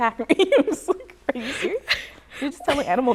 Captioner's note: laughs